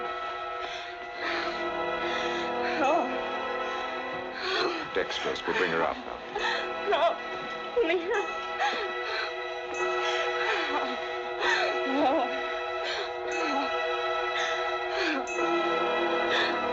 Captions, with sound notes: - Oh! Oh! - Dextrose. We'll bring her out now. No. [Mutters] [Gasping, Moaning]